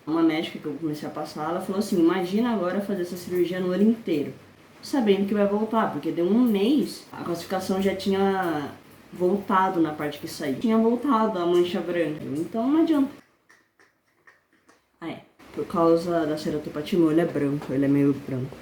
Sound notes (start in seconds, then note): 13.2 tongue sounds